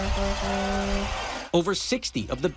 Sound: nats horn

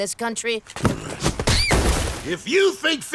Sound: thudding

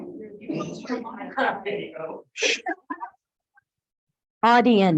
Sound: audience muttering

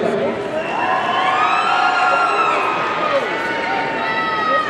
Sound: audience cheering

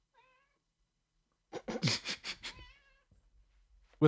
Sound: chuckles* *meow

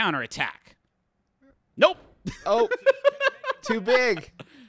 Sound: laughing

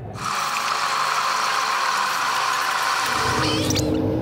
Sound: tape whirring

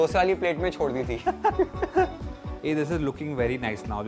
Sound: both laugh

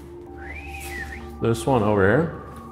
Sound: whistling

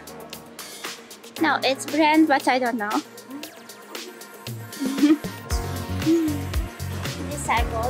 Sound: laughter

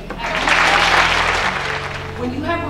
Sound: clapping

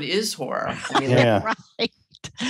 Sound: laughs

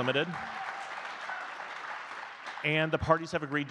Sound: audience clapping

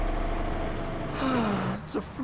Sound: Klaus sighs

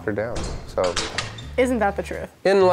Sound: locking clanks

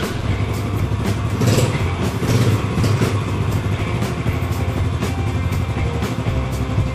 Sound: motorcycle start via remote start

